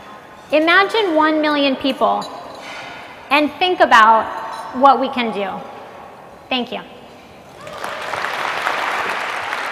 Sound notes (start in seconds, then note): 7.6 applause